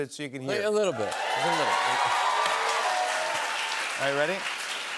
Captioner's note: cheers and applause